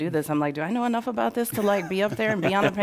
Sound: laughter

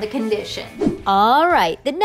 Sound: graphics whoosh

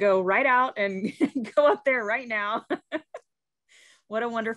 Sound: laughing

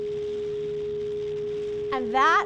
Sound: extended boop

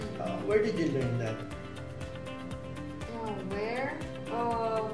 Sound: none

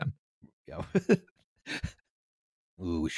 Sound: chuckles

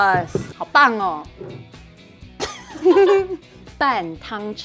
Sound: speaking in mandarin

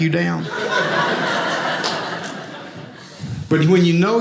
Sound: audience laughing

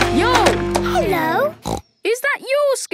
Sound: snorts

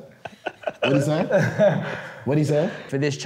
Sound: laughter

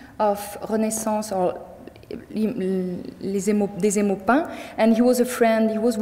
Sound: speaking in French

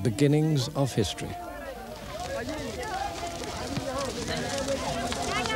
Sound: non-english speech

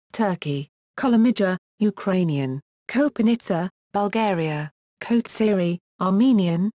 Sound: Ukrainian

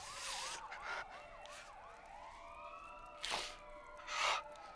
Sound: sirens approaching

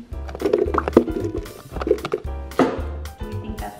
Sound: tomatoes thudding

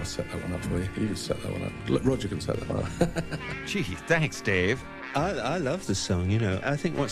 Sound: laughs

